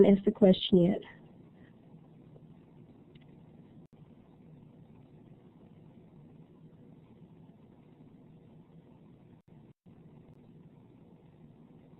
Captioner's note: silence